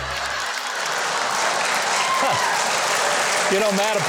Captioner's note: audience clapping